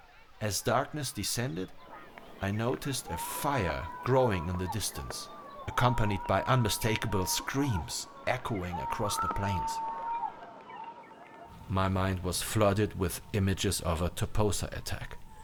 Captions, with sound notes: As darkness descended, I noticed a fire growing in the distance, accompanied by unmistakable screams echoing across the plains. [DISTANT SCREAMS] [FIRE CRACKLING] My mind was flooded with images of a Toposa attack.